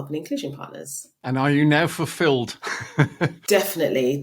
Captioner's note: laughing